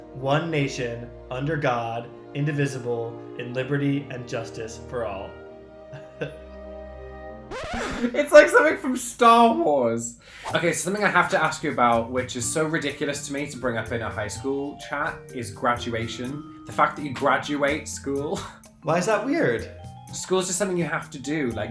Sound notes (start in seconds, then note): 5.9 chuckling; 8.3 wheezing